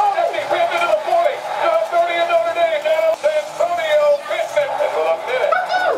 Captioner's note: sports announcer reviewing game